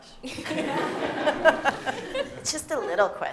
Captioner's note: laughter